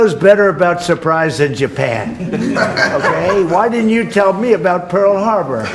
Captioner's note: laughs